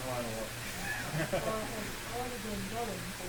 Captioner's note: laughter